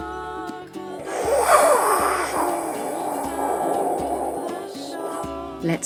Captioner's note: fire roars